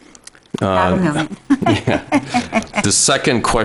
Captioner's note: speech drowned out by chuckling